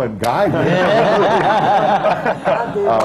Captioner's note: laughter